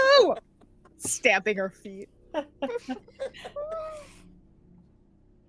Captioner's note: laughing